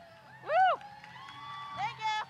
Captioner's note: audience applause